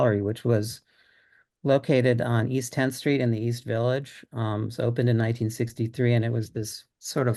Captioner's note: none